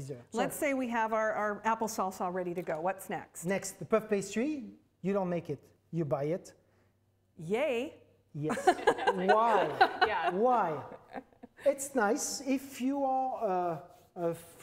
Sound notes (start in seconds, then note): 8.5 laughs